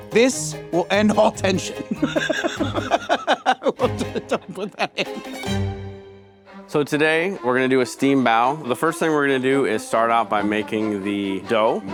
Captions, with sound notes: this will end all tension. (laughing) Well, don't, don't put that in. (laughing) - So, today we're gonna do a steamed bao. The first thing we're gonna do is start out by making the dough